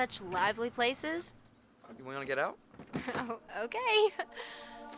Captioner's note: chuckling